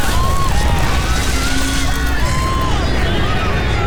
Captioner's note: explosion; crowed screaming